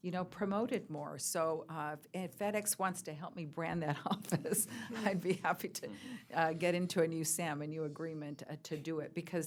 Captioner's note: laughs